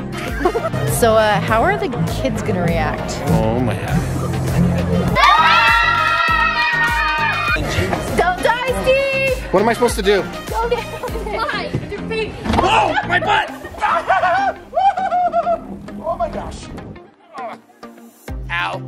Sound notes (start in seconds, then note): 5.1 screams; 13.5 chuckles